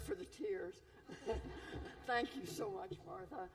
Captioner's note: laughter